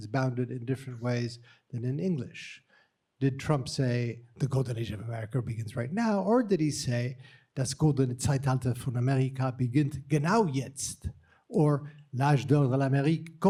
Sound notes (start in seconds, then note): 7.4 speaking german; 12.1 speaking french